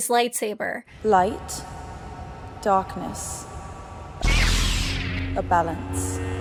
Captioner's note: lightsaber humming